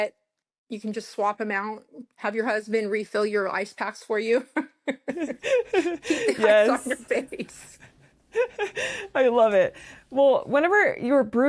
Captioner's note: laughter